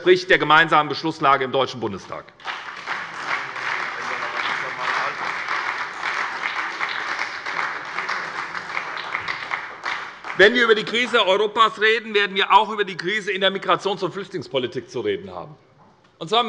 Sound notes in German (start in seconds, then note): 2.3 Beifall bei der SPD